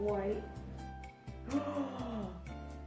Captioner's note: gasp